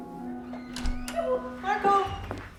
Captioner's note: door opens